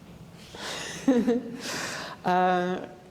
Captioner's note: giggles